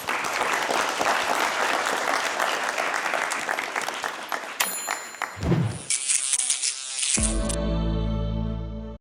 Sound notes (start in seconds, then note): 0.0 applause; 4.6 bell dings; 5.8 buzzing